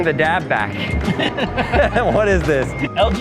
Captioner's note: both laugh